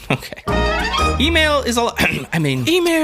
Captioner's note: ahem